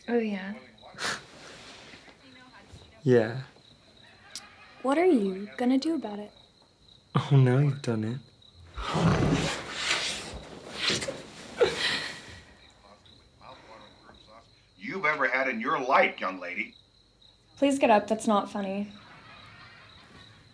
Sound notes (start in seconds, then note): 8.7 animalistic snarling; 10.1 passionate kissing; 11.2 playful giggling